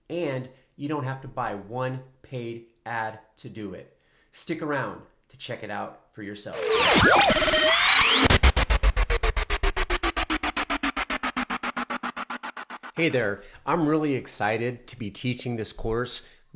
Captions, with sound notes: And you don't have to buy one paid ad to do it. Stick around to check it out for yourself. (static bleeps) Hey there, I'm really excited to be teaching this course,